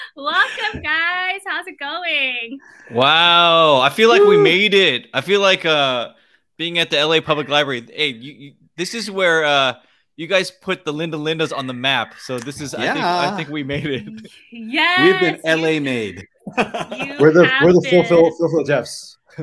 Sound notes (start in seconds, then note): 0.0 laugh; 15.0 laughs